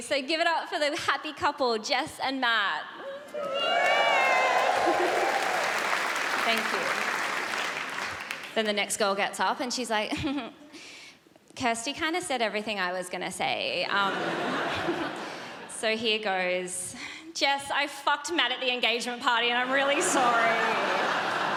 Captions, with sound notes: 'So give it up for the happy couple, Jess and Matt.' 'Yay.' *audience cheers* Thank you. Then the next girl gets up and she's like, *giggles* 'Kirsty kind of said everything I was gonna say, ummm...' 'So here it goes.' 'Jess, I f*cked Matt at the engagement party' 'and I'm really sorry.'